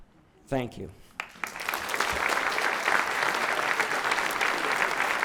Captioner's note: audience clapping